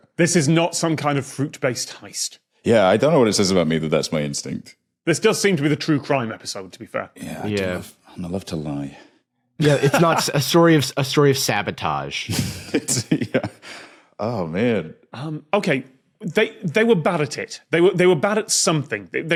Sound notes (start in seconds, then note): 9.6 laughs; 12.3 giggles